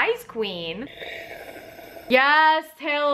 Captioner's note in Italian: sorseggia il tè